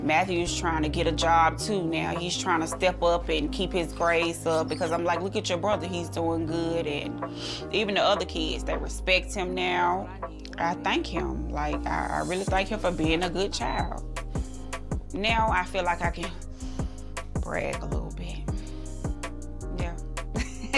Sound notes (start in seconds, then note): 18.5 inhales; 20.4 laughs